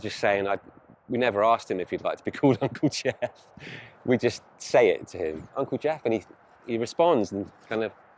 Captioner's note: laughs